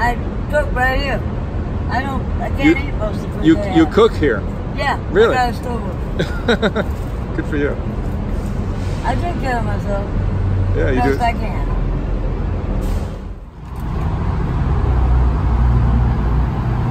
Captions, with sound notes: - I cook right here. I don't- I can't eat most of the food they have. - You cook here? - Yeah, I've got a stove over there. (laughs) - Good for you. - I take care of myself . The best I can.